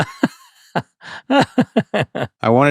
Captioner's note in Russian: Смееться